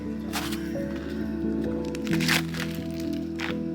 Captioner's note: slip